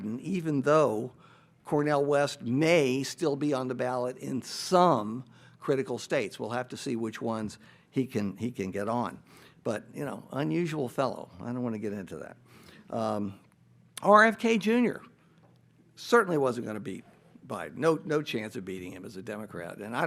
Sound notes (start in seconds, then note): none